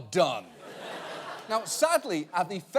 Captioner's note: audience laughing